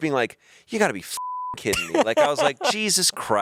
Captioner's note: beep